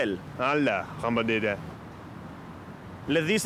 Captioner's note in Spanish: Habla en Francés Inventado